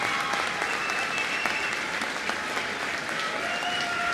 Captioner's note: applause